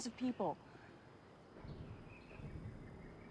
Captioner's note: bird chirp